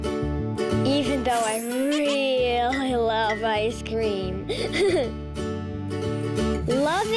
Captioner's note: giggles